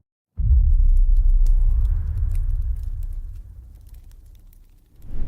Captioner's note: fire sounds